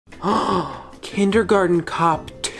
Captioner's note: gasp